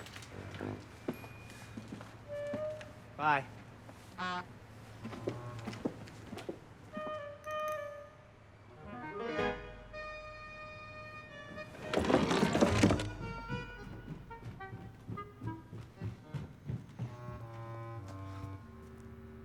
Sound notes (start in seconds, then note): 7.1 jolly music; 11.6 window closes; 16.2 suspenseful music